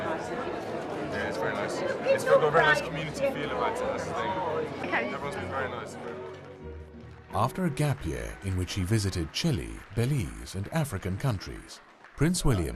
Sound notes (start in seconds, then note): 7.3 voiceover